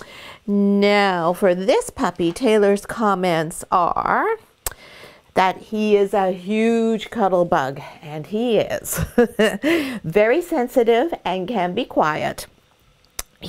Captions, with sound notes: Now, for this puppy, Taylor's comments are that he is a huge cuddle bug. And he is. (laughs) Very sensitive and can be quiet.